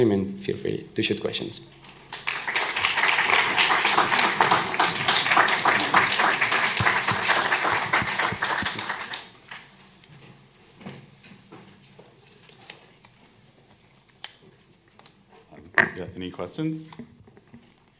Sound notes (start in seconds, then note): 2.1 applause